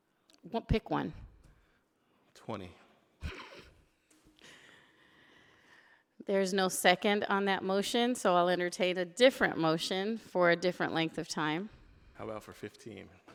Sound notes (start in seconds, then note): 3.2 laughing